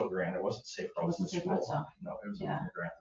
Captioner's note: overlapping chatter